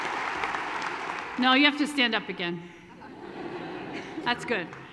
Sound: laughter

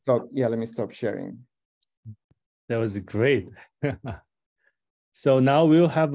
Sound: laughter

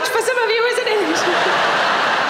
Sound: audience laughing

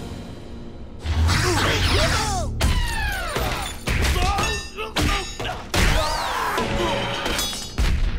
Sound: grunting

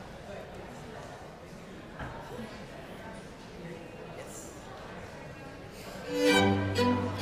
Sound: congregation continues chattering; elegant uplifting music

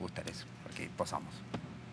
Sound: foreign language

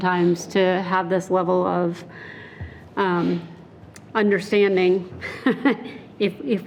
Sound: laughing

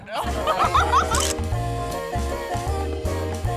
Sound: camera clicks; playful music

